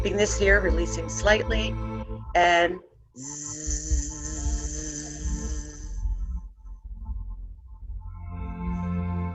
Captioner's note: buzz